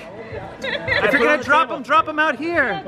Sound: laughing

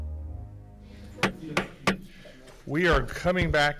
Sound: gavel bangs

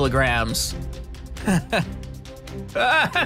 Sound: chuckles

